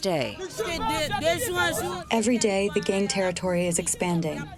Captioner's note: through translator